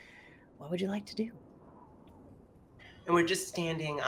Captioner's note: wind whooshing